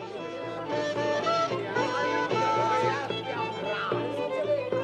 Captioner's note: speaking in foreign language